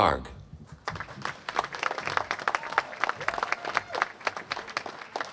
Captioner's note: applause